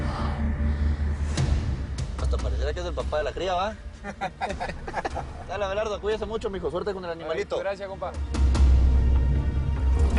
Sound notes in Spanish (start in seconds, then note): 4.0 Risas